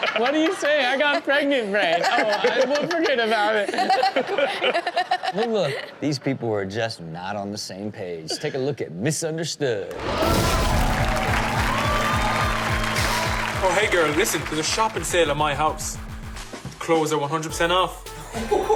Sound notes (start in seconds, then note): 9.9 audience applauds and cheers; 10.0 upbeat music